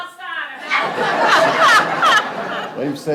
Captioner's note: people laughing